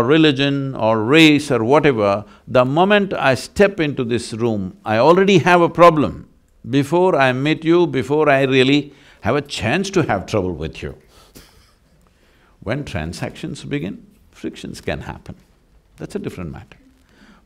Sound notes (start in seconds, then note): 11.3 laughs